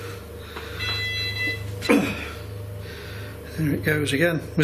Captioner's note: machine beeping